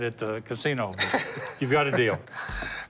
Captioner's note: Rick laughs